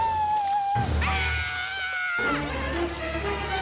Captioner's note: screams